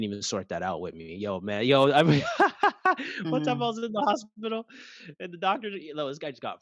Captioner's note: laugh